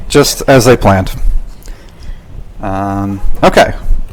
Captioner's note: none